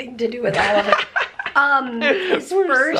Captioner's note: laughing